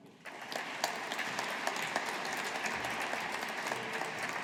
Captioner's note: audience applauding